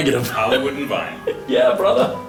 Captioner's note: voiceover